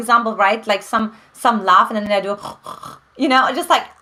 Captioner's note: snorts